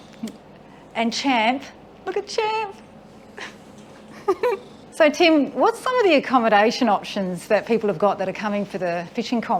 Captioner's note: laughing